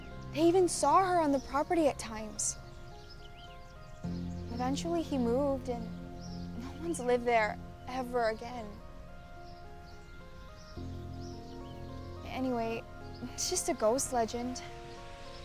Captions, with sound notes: They even saw her on the property at times. Eventually he moved and no one's lived there ever again. (birds chirping) (dramatic, ominous music) Anyway, it's just a ghost legend.